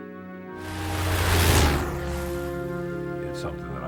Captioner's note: loud plane engine